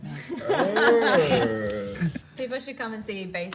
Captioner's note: everyone laughs